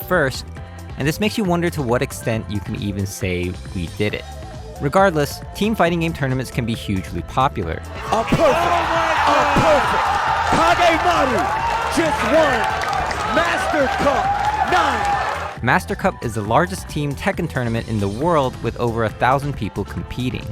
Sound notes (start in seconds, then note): 7.9 heavy applause and cheering